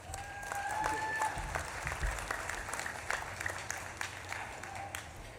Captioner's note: audience claps and cheers